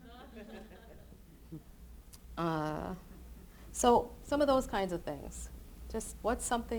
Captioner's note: laughter